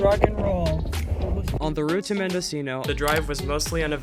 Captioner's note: voiceover